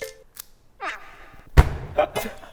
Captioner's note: rustle